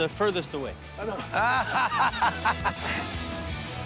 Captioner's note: laughter